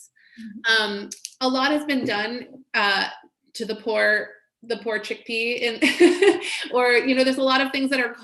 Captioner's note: laughs